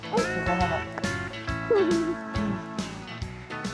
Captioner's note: giggles